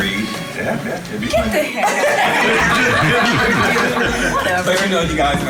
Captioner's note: everyone laughing